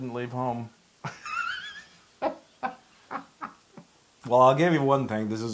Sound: laugh

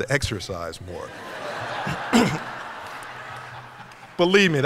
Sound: laughter

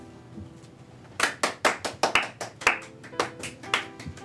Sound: weak clapping

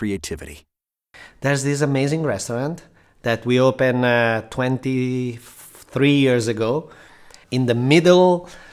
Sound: Massimo Bottura speaking

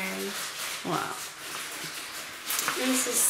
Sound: plastic crinkling

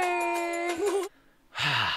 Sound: giggles; sighs

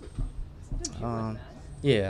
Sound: tongue clicking

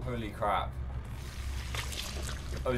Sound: squelching noise

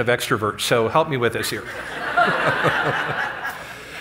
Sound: laughter

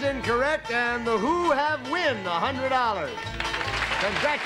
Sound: applause

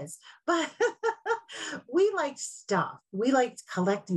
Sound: laughs

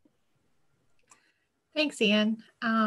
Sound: clicking

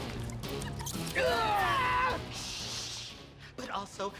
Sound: screams

